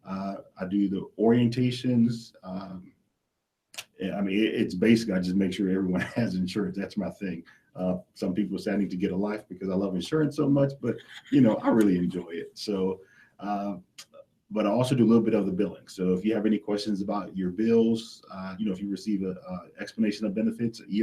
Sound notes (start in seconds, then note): 10.8 laughs